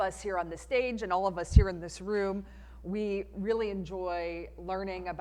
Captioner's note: none